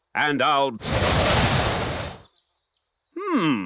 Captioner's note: blows